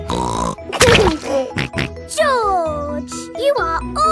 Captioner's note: laughs and snorts